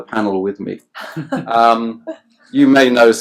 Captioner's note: laughs